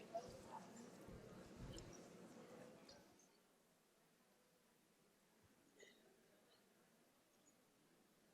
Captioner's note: background Discussion